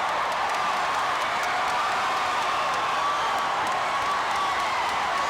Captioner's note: audience cheering continues